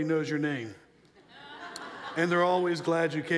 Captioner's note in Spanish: risas de la audiencia